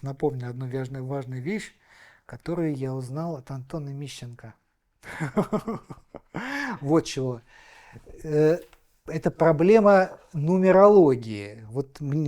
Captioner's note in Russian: смех